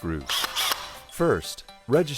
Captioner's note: drill whirs